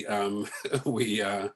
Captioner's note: laughs